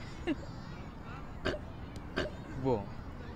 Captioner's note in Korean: 꿀꿀 거리는 소리